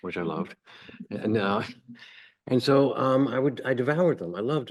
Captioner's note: chuckles